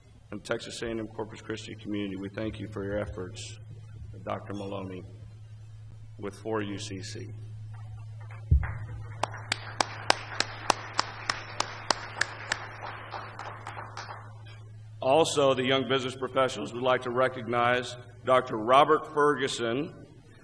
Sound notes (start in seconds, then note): 8.6 applause